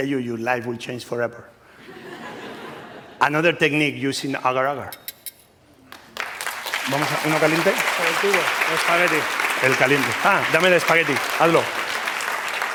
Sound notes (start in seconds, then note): 5.9 applause; 7.1 speaking spanish